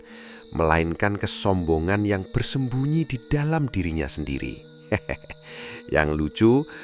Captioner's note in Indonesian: tertawa